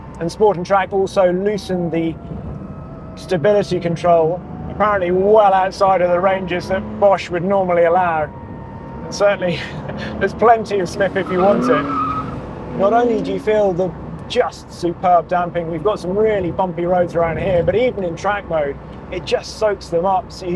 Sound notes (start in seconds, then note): 12.5 tires screech